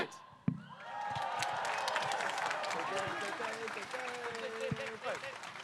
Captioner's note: audience applauding